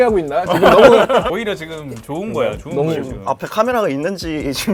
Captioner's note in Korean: 웃고 떠드는 분위기